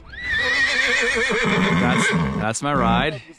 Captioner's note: horse neighing